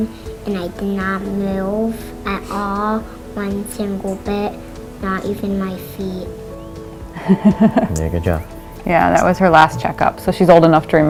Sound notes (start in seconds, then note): 7.1 laughing